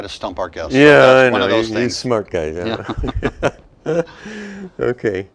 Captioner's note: laughter